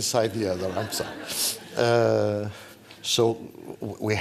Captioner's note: laughter